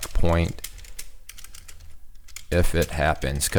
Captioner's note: typing